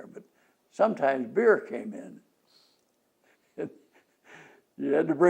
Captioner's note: laughs